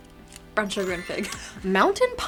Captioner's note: chimes ringing